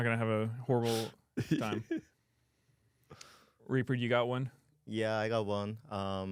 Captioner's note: laughs